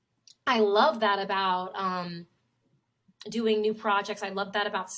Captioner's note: none